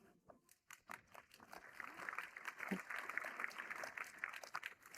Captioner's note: audience applauding